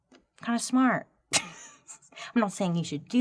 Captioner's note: laughing